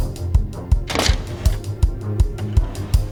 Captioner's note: lock snapping